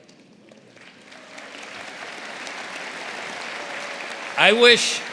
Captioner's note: audience applauding